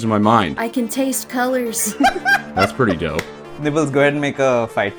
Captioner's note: laughter